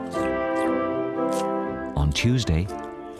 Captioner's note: bright music; crunching sounds